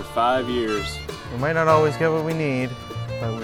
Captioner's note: unenthusiastic